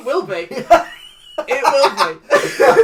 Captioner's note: fully Laughs; wheezy laugh; laughs